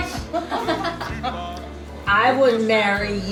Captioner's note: ladies laughing